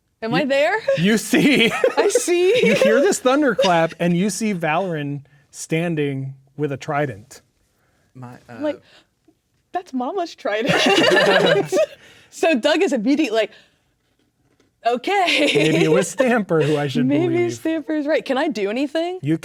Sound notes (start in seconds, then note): 10.6 players laughing